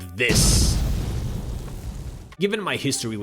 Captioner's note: bang